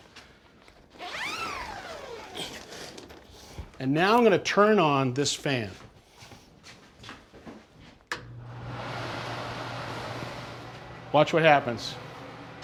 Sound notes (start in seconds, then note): 0.9 zipper rasps; 9.7 fan whirring